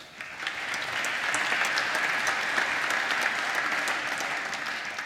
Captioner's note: applause